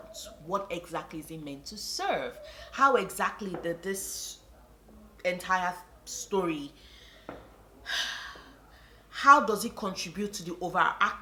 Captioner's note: sigh